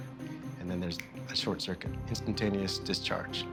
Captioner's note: snaps